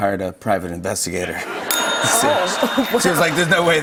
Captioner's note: ding!